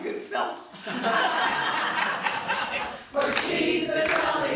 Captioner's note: all laughing